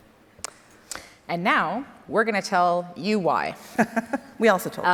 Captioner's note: laughs